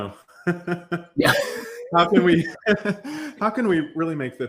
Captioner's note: laughter